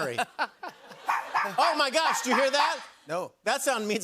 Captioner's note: laughter; dog barking